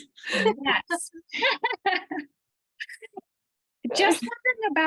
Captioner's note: laughter